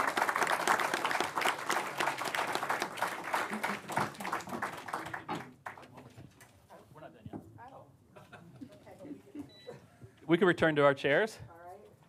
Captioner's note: applause